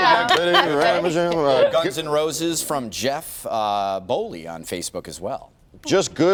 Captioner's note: laughter